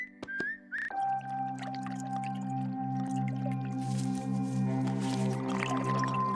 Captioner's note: liquid bubbling